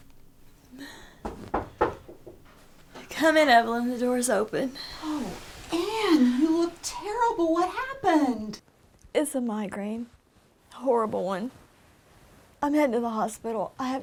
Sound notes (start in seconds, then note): 1.1 knocking